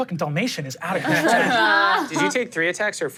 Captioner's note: everyone laughs